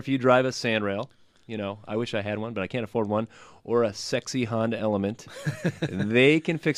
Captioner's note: laughs